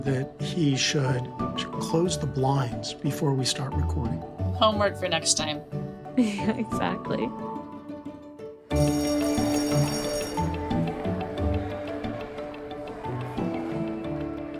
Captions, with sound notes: that he should close the blinds before we start recording. - Homework for next time. - Yeah, exactly. (bright music) (bell rings)